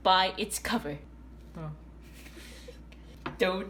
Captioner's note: silent judgement